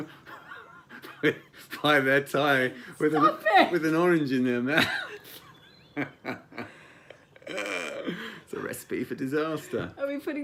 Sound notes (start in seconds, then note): 4.6 laughing